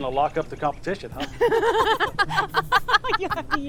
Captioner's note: Mae and Mortonite laughing